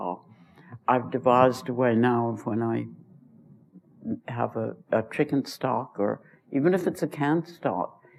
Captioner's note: none